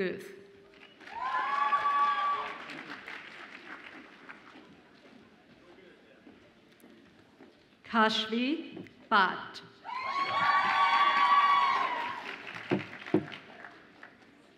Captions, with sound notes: (audience applauds and cheers) Kashvi Bhatt. (audience applauds and cheers)